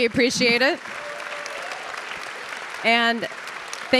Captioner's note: audience applauding